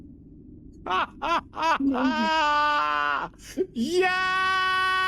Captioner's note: laughing